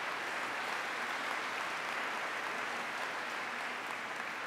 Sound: applause

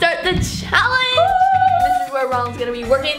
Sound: cheering

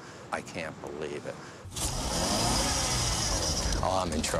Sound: tires spinning

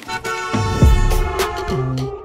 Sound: car horn honking; deep bass music

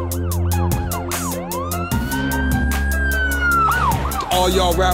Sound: hip hop music; police sirens wailing

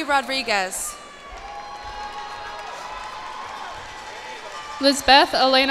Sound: cheers and applause

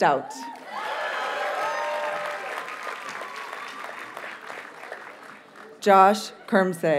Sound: audience cheers and applauds

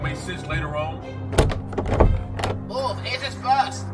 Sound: door handle jiggles

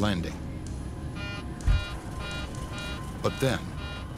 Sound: computer beeps

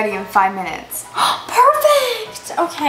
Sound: gasps

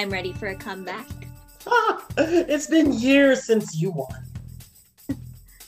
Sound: laughs

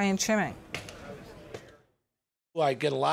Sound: people chattering

